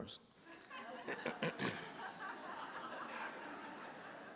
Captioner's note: laughter